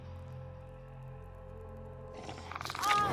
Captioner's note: snarling